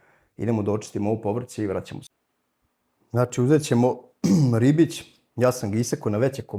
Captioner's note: coughs